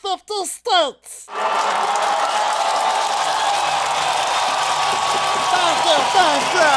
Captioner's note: cheering